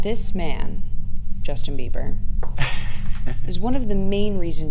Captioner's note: laughs